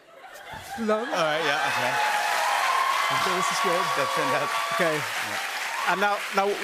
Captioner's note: cheers and applause